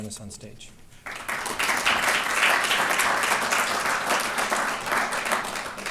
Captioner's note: applause